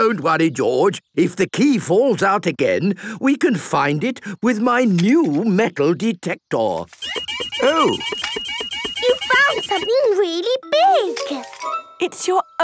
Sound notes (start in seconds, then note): 6.9 beeping